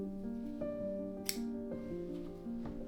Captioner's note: snip